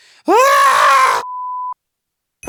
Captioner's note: screams